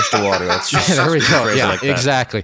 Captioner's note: laughs